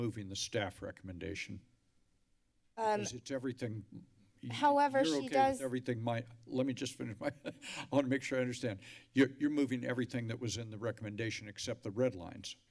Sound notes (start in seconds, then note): 7.1 laughs